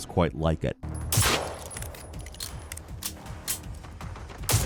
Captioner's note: gunshot blasts